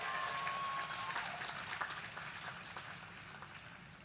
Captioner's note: applause